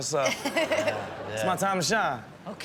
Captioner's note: Chanel and audience laughing